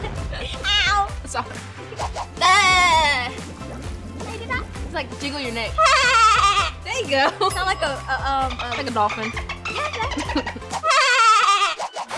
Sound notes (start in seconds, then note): 1.9 laughing; 5.7 laughing; 10.5 laughing